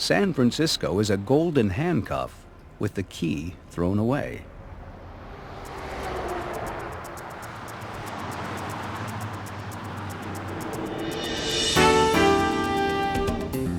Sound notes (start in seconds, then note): 5.9 traffic noise; 12.0 fast jazzy music